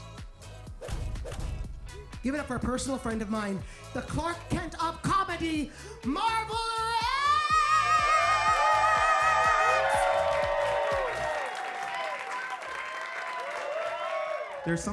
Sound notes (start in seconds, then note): 0.2 uptempo music; 7.0 audience cheering; 10.0 audience cheering and clapping